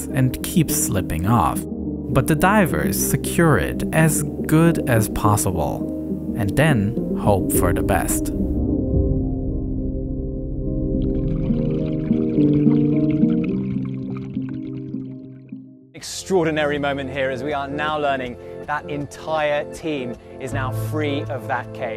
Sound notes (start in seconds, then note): 7.7 tense music; 10.7 water burbling